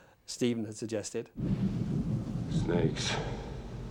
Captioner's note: thunder rumbling